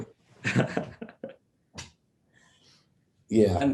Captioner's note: laughter